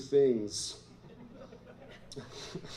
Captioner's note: laughter